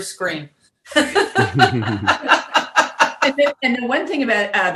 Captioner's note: laughing